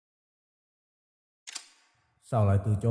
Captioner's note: cocking